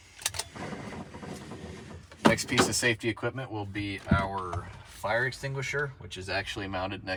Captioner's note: seatbelt clicking